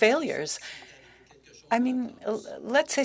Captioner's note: speaking French